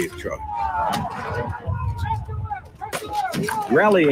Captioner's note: men yelling